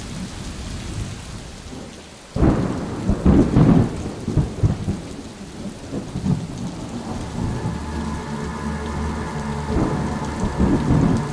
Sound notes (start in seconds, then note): 2.6 thunder rumbles; 6.4 ominous dramatic music